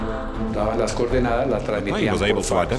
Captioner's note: Spanish spoken audio